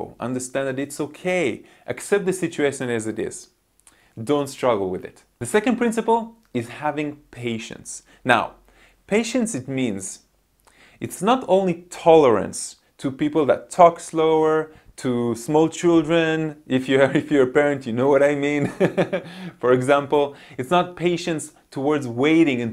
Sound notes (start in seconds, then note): 18.6 laughs